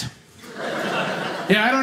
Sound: audience laughing

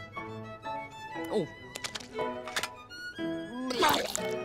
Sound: gulps

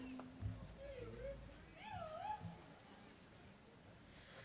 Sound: students cheering

